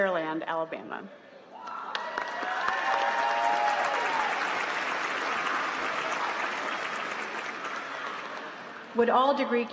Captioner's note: applause